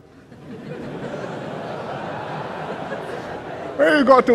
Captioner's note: laughter